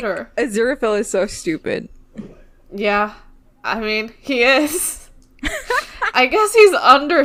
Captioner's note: laughs